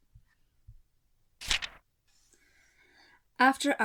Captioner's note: page turns